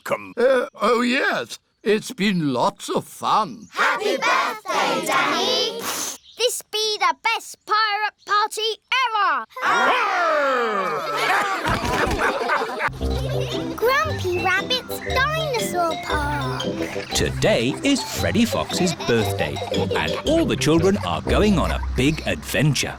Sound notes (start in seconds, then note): 9.6 all laugh